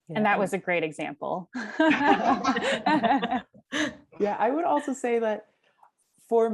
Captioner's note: laugh